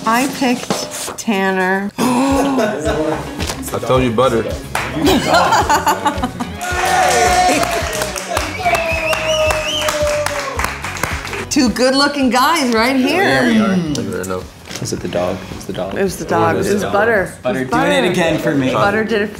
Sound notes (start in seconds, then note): 5.0 laughing; 6.8 group cheering